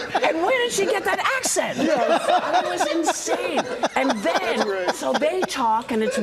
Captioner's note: laughter